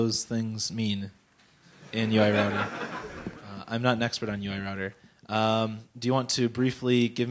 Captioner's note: laughter